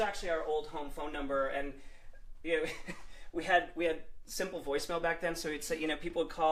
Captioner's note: laughter